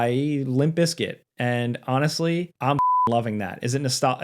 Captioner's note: beep